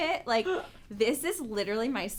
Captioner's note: laughs